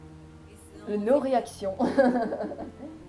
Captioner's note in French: rigole